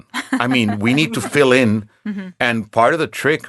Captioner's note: laughing